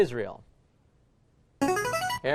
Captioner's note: chiming